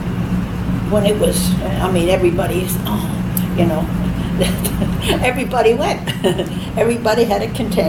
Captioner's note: clasps hands and laughs